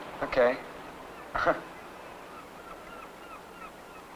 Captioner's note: gentle chuckling